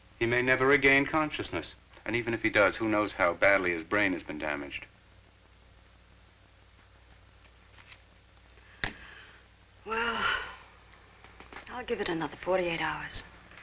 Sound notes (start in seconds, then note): none